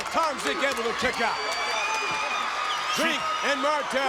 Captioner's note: crowd cheers